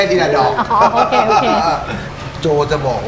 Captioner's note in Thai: หัวเราะ